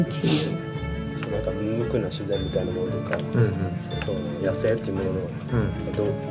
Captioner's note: speaking in foreign language